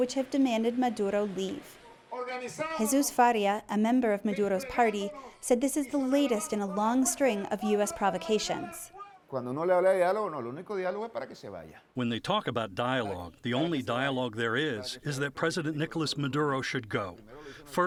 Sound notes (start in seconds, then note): 10.8 through translator